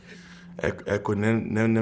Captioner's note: laughing